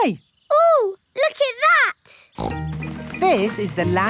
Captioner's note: snorts